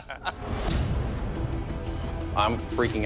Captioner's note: laughter